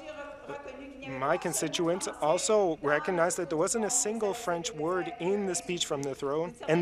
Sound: speaking French

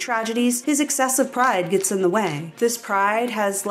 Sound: snap, snap, snap

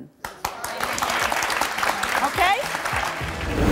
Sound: audience applauding

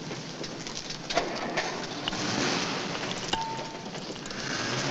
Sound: motor revving

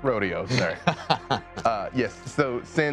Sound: laughing

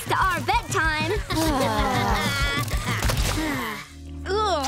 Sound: sighing

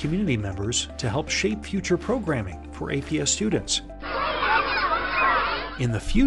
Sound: sound of students at recess

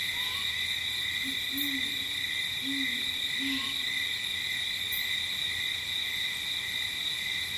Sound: light jungle ambience

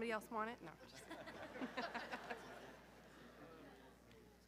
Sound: group laughing

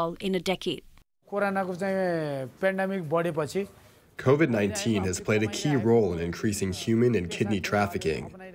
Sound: through translator

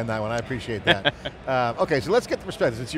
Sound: laughing

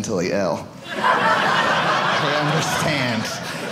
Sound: audience laughing

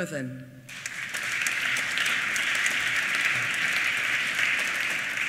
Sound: applause

